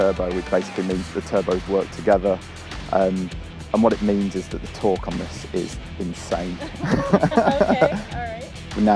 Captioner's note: laughs